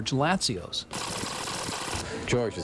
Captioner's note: tape rewinding